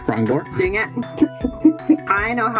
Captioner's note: signage-appreciating noises